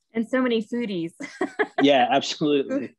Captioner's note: laughing